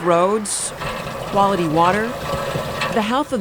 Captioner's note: pumping at well